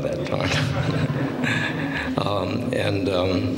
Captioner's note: laughter